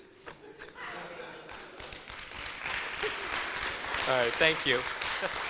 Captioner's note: audience laughs and applauds